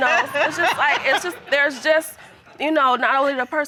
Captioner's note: laughs